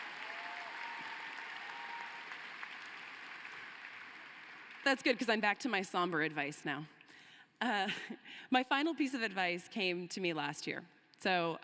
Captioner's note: cheering and applause